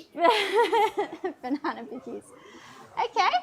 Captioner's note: laughs